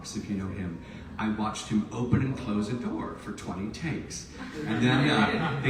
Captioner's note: audience laughs